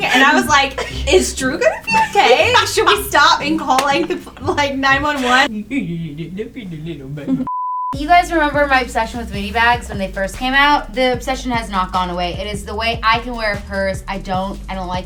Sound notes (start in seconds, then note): 7.4 beep